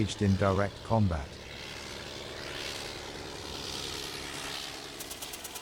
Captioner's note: engines roaring